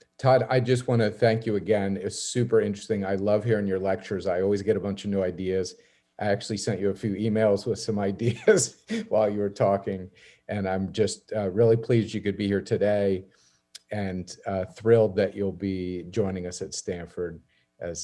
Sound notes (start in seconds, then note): 8.3 laughs